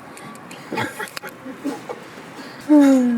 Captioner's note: laughs